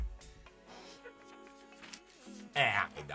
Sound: laughs

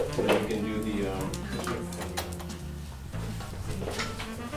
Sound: background chatter

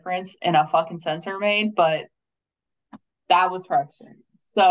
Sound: faintly speaking

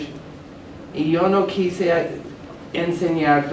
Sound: speaking spanish

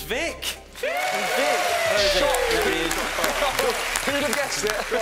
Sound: cheering

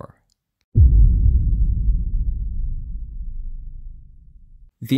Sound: boom

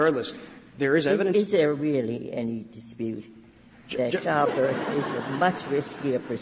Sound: laughter

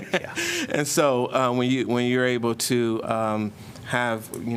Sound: laughter

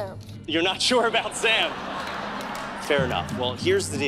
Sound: audience laughing

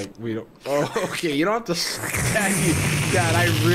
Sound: slurping

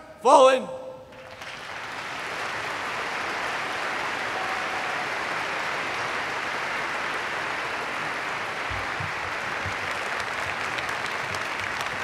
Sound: applause

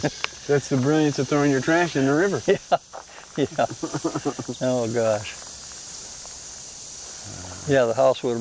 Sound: laughs

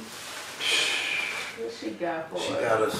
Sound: exhales

